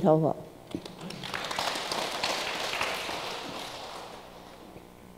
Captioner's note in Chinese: 眾人鼓掌